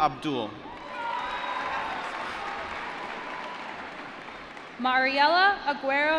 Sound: cheering

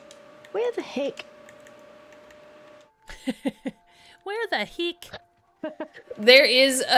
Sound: laugh

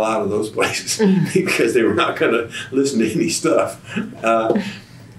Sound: laughs

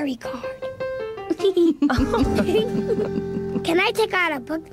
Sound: whispering; all laughing

